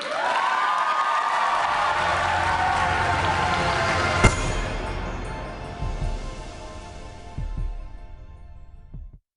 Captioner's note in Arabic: تصفيق